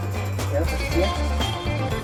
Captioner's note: in Swiss German